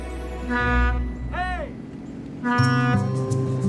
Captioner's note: horn honks